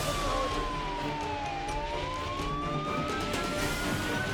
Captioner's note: firefighter speaking in foreign language; siren blaring